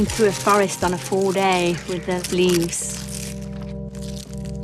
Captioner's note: leaves crunching